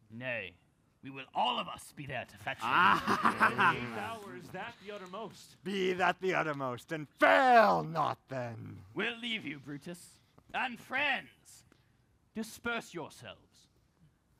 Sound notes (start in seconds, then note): 2.6 laughs